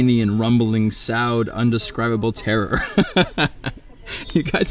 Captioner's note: laughing